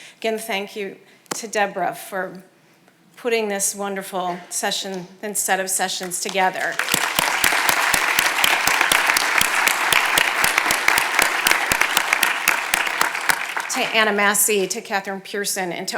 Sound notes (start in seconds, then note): 6.2 audience applauding